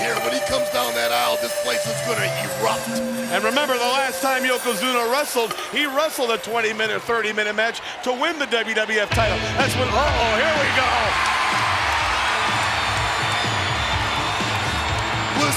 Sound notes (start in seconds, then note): 9.0 upbeat music; 11.4 audience cheers